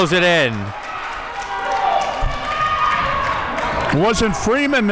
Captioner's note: audience cheering